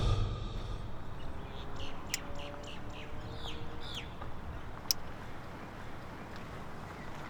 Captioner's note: birds chirps